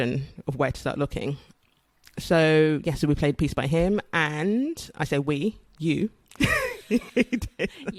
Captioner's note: laughs